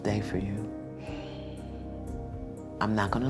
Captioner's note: sighs